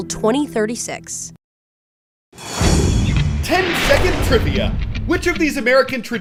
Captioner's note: voice-over